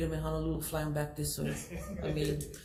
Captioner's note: laughs